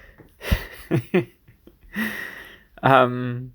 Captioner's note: chortles